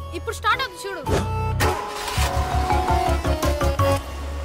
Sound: engine starts

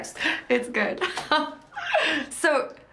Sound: she laughs

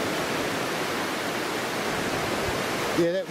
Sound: waves crashing

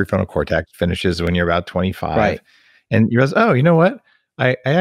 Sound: murmurs

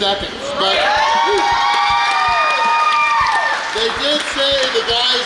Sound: crowd cheers

